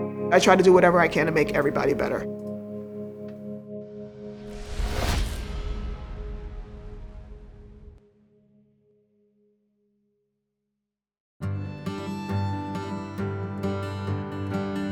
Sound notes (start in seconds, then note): 4.3 whooshes; 4.3 gentle music concludes; 11.4 gentle instrumental music